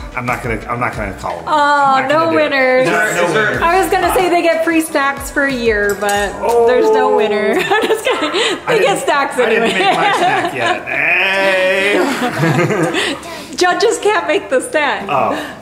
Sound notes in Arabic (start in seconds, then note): 7.9 يضحك; 12.4 مجموعة تضحك